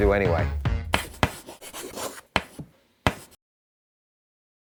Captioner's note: chalk writing